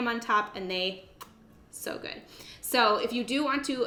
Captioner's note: smooching